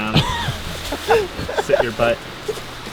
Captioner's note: laughing